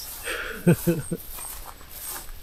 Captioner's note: laughs